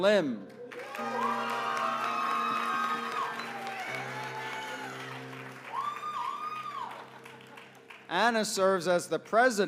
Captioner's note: applause